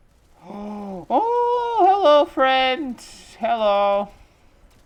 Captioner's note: gasp